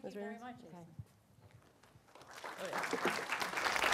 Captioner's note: applause